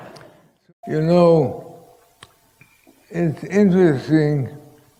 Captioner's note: laughter